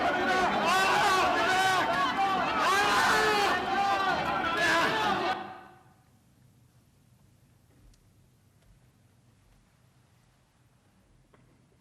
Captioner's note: yelling